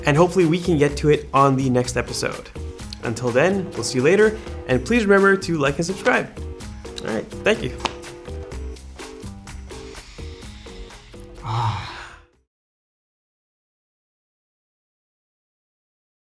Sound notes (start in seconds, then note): 9.8 sniffs; 10.4 sighs